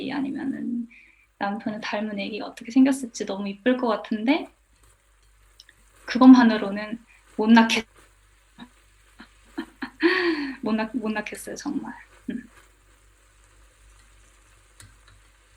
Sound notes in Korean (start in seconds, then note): 9.5 웃음